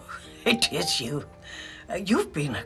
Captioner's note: laughing